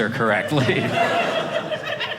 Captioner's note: audience laughing